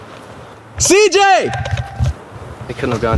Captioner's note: screaming